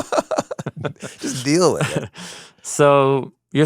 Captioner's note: laughs